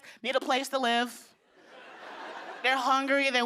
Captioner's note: laughter